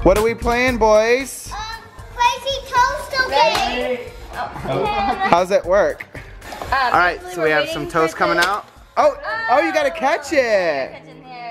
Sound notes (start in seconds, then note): 8.3 toaster pops